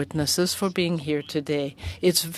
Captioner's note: speaking French